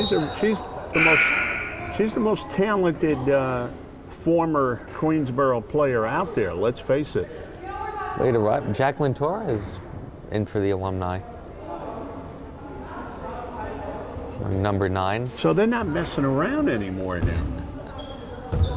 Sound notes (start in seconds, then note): 11.1 crowd chattering; 17.4 crowd chattering